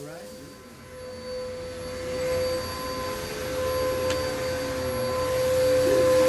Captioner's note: vacuum cleaner whirring